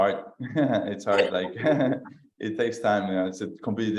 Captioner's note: laughs